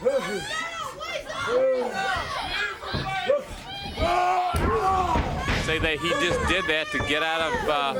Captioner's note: crowd chatter